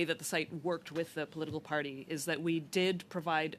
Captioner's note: speaking French